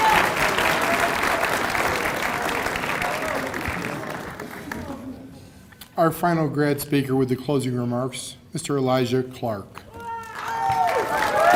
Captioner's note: cheers and applause